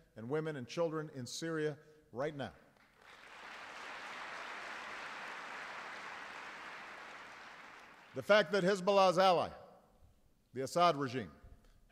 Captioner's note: applause